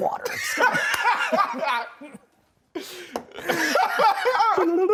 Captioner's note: both laughing